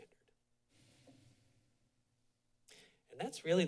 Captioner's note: short pause